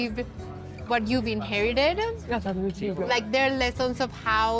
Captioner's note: speaking Spanish